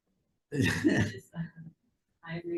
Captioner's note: laughs